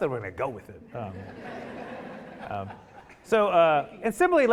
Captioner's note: audience laughing